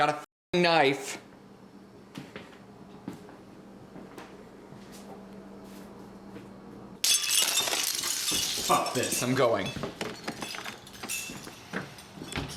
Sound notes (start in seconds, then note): 7.1 jingling beads